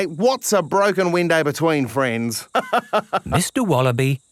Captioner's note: laughs